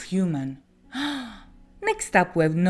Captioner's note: gasp